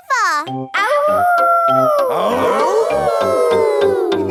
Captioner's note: all howling; howling